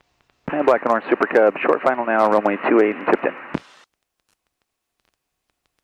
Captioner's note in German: über Air Traffic Control Frequenz